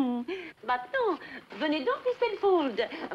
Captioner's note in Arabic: يتحدث بلغة أجنبية